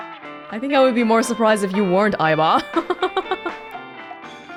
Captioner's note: chuckles